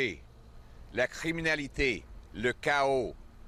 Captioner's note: French